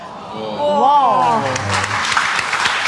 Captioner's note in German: Gerührte Laute, Applaus